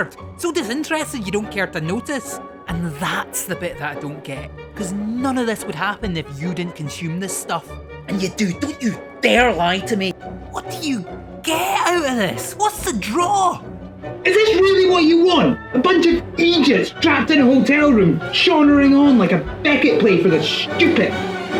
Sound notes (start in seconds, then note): 13.8 shouting